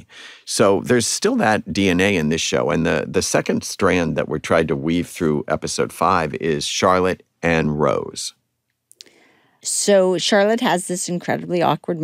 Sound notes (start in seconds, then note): none